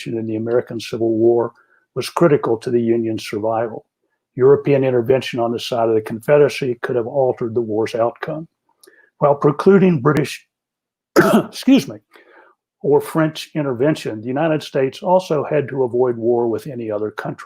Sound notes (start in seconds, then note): 11.1 coughs